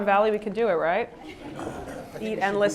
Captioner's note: laugh